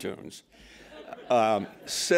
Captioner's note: laughter